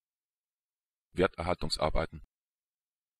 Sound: fast Pronunciation

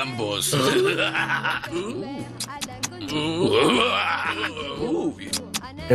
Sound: laughter and kisses

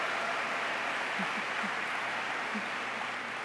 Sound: applause

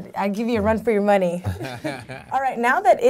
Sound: laughing

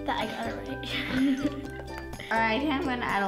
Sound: laughing

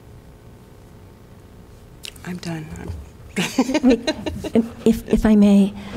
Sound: laughter

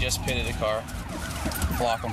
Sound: siren

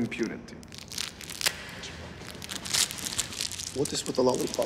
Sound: plastic crinkling

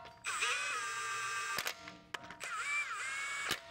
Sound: drill whirring

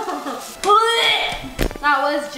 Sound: laughing; retches

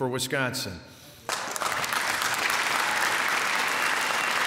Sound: applause

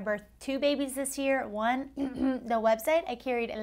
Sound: clears throat

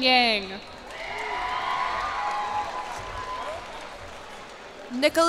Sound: cheers and applause

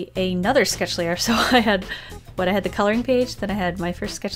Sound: laughs

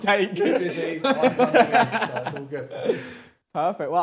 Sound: laughter

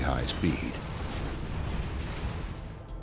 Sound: boom

